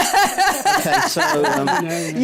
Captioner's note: laughter